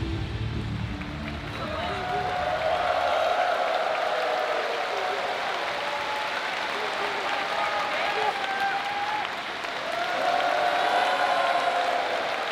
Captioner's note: applause